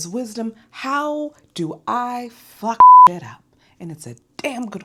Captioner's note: beep